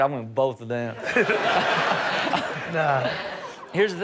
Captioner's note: all laughing